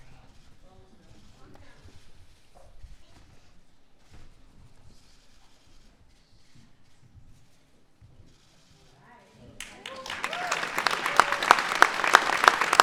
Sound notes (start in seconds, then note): 9.6 applause